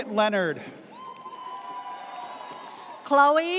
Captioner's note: audience cheers